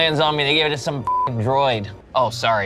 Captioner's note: beep